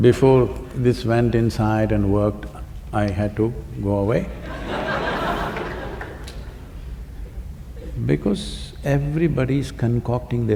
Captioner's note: laughter